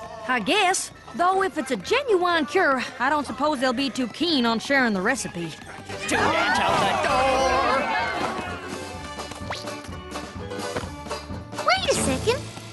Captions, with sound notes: I guess, though if it's a genuine cure, I don't suppose they'll be too keen on sharing the recipe. (crowd noises) Wait a second!